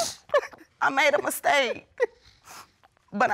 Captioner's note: sniffling